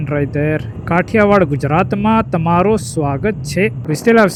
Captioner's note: trying to speak Gujarati